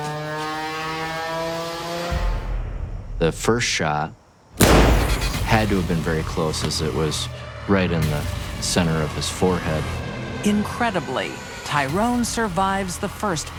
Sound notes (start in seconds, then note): 4.6 gunshot